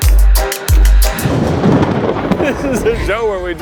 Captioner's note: thunder crashing; laughing